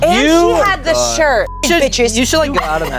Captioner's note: beep